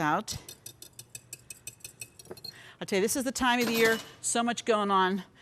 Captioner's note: glass rattles